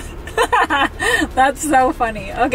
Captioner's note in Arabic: أمي تضحك